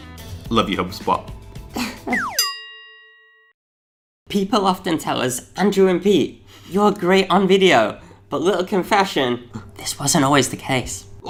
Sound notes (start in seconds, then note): 2.3 dinging